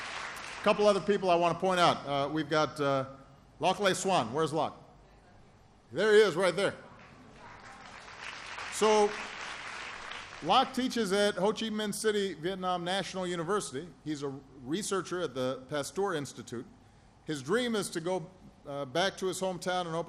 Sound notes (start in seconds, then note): 6.9 applause